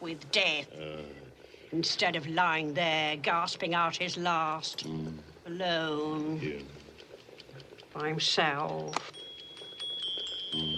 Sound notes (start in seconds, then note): 5.5 watch ticks; 8.7 watch chimes